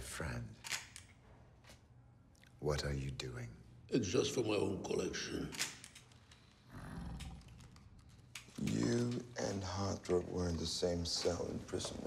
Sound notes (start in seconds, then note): 0.6 camera clicks; 5.1 camera clicks; 6.6 Bjorn growls